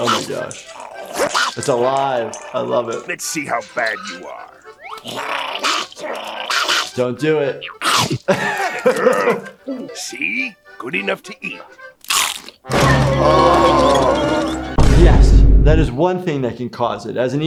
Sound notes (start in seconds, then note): 5.7 paddy snarls; 8.5 laughs; 12.3 Mr. Krabs growling; 12.3 wheels rolling; 12.7 tempo music playing